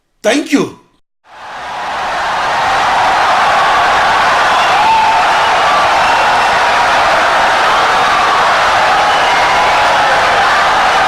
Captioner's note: wild applause and cheering for 17 seconds